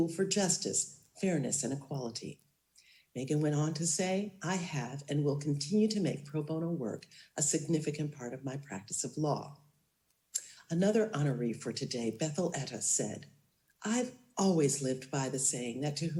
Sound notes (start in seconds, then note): none